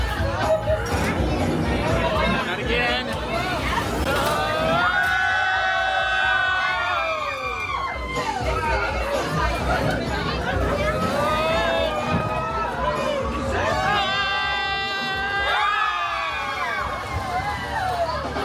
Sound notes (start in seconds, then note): 0.0 guests screaming and laughing; 4.1 guests screaming, laughing and cheering